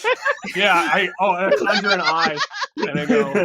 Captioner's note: laughing